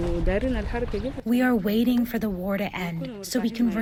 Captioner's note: through translator